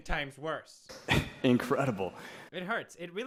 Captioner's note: loud breath